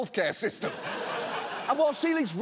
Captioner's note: audience laughs